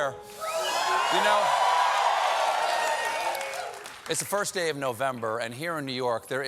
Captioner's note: cheers and applause